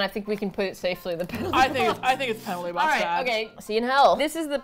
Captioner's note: laughs